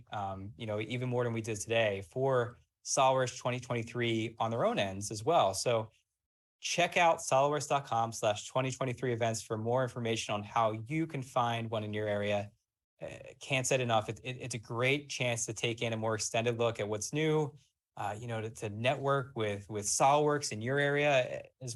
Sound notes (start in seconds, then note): none